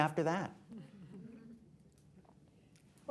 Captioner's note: laughter